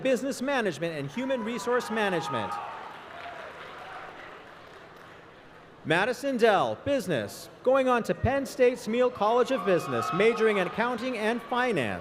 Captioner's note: applause